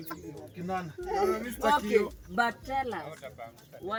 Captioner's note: laughing